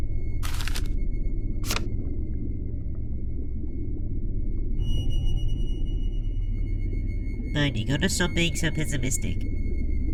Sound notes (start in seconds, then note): 0.4 paper moving